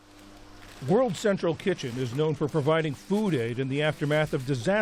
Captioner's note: voice-over